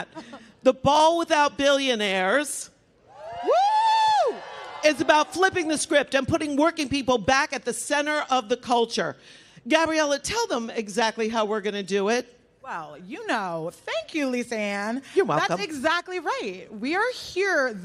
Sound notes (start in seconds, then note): 4.4 applause